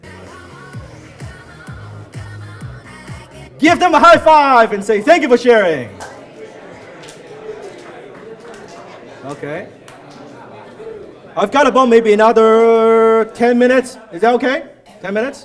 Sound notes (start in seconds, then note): 7.6 audience mumbles